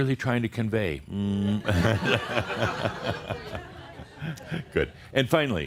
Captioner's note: Adamus shows his middle finger again and more chuckles